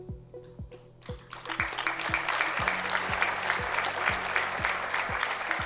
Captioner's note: applause